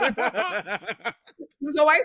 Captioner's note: laughing